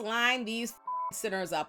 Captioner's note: beep